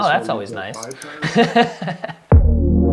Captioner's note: laughs